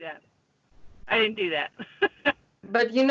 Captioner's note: laughs